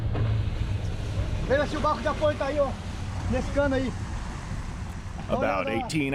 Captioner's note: background chatter